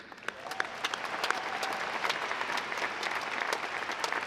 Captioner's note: audience applauding